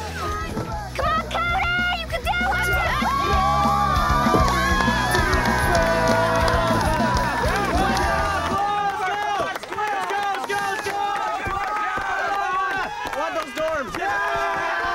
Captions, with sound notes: - Come on, Cody, you can do it! (everyone cheering) (boys cheering)